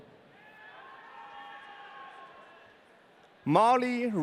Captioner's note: audience cheering